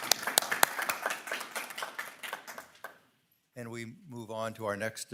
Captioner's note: audience applauding